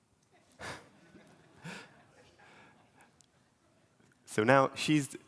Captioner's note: laughter